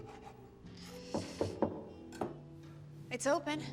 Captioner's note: knocking